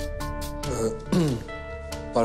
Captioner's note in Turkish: Boğazını temizledi